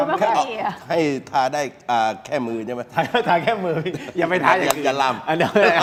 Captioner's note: laughs